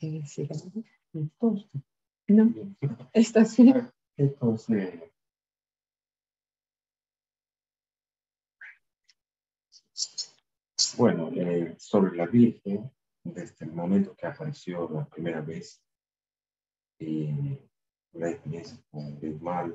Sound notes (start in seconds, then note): 6.5 speaking spanish